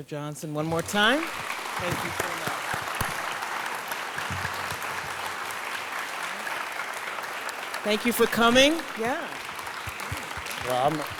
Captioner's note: applause